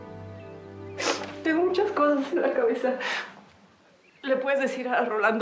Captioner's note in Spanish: solloza